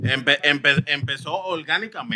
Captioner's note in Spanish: Hablando en idioma extranjero